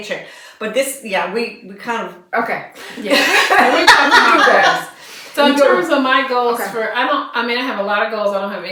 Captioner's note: laughter